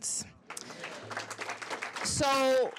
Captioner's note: applause